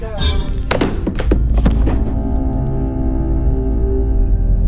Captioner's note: menacing music; shoe thuds; tense menacing music